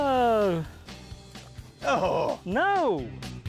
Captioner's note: exclaiming in dismay; upbeat country music